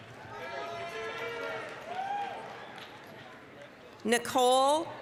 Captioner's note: applause, cheering